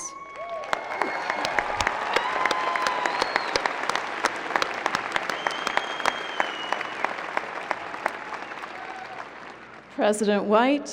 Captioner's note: applause, cheering